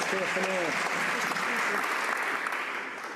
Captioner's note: some Applause